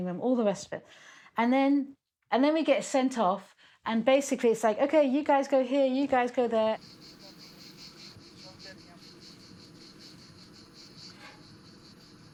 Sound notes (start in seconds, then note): 8.2 all chattering